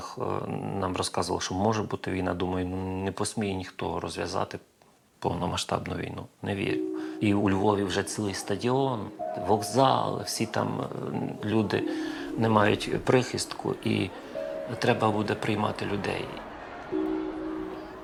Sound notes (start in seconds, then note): 7.2 calm piano music; 13.3 sounds of the crowd